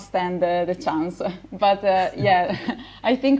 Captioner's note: laughs; chuckles